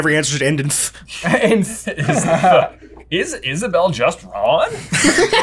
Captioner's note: laughs; laughter